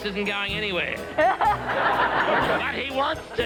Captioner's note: group laughing